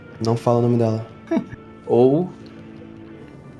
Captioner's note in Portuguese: risada